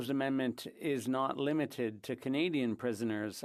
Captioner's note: speaking French